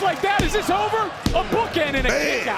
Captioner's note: hand slaps